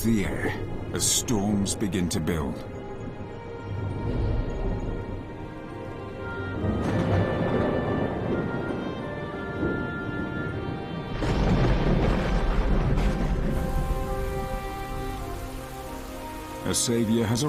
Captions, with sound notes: (rain pattering) (dramatic music) A savior has arrived just in time for many animals. (dramatic music)